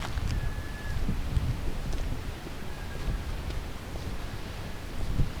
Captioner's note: footsteps